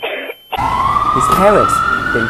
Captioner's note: ambulance noises